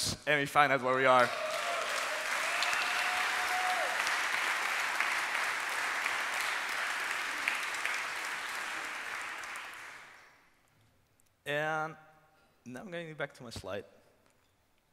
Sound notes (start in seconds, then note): 3.4 applause